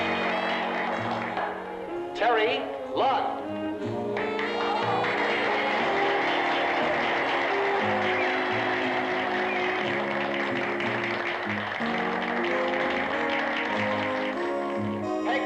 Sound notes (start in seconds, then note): 4.1 applause; 4.6 light orchestral music plays